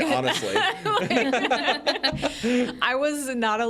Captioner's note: group laughs